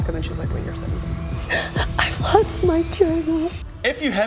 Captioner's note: sobs